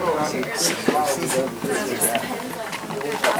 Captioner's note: chattering